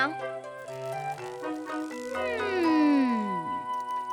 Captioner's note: whimpers